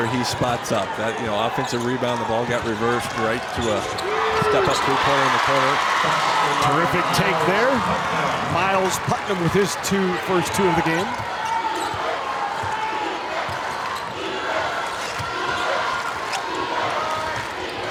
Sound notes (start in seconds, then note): 5.0 audience cheers; 13.9 crowd